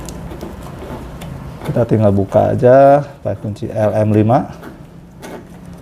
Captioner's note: L-shaped key noise; L-shaped key noise